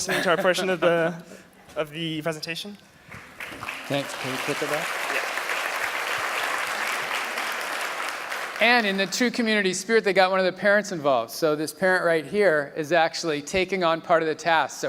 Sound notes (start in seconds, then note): 3.1 applause